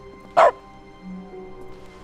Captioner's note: bark